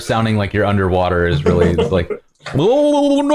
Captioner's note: laughter